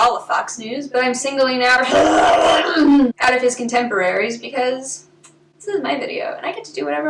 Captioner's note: barfing noises